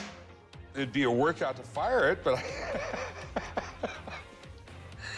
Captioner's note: laughs